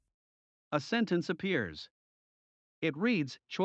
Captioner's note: voiceover